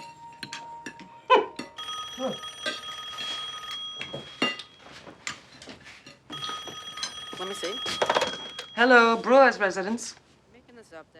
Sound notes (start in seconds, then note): 1.7 phone ringing